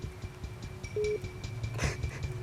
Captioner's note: line beeps; sobbing